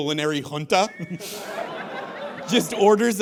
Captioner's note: audience laughs